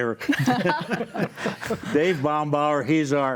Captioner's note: panelists laugh cheerfully